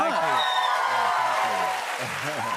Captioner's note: cheers and applause